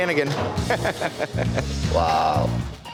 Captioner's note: laughing